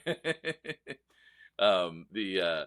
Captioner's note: laughs